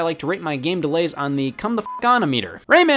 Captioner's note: beep